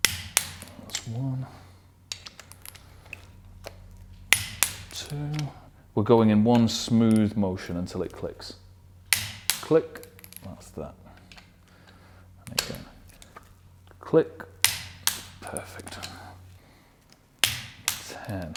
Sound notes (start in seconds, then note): 0.0 wrench clicking; 4.3 wrench clicking; 9.9 wrench clicking; 12.4 wrench clicking; 14.6 wrench clicking; 17.4 wrench clicking